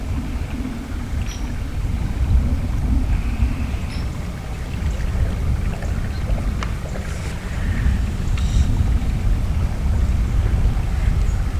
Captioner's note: birds chirping